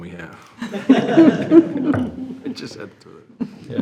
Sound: board laughing

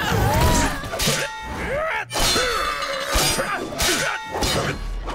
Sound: grunting

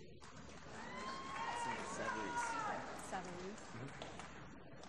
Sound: applause

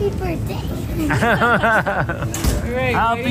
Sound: laughs

